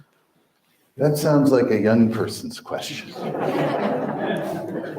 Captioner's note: crowd laughs